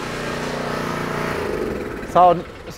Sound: machine engine dying

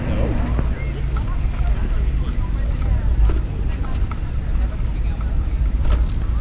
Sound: people chattering softly

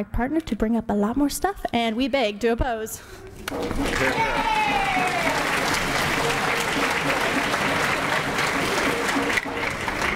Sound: applause and cheers

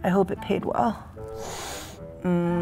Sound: hisses; murmurs

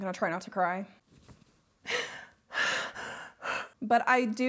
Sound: shaky breathing

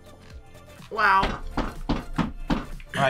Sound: stomping

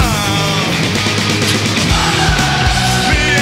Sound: crowd

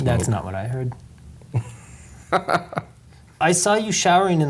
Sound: laughs

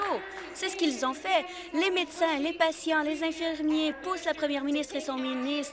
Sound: applause

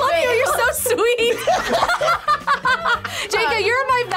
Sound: group laughs

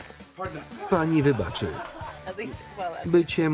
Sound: laughing

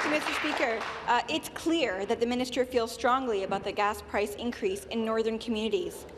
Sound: some Applause

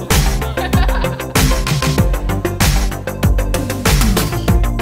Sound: laughter

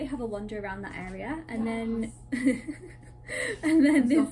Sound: laughs

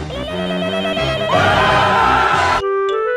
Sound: all screaming

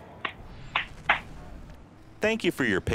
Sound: clapping

